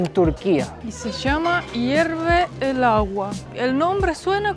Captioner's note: water boils